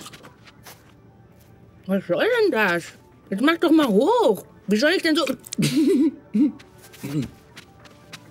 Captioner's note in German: lacht